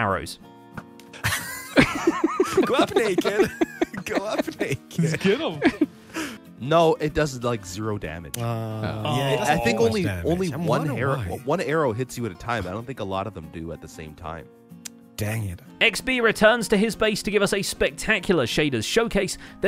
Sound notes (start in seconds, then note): 1.2 all laughing; 8.3 disappointed noises